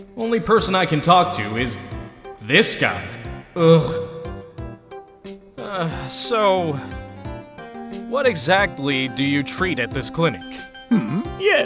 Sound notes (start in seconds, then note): 6.3 sigh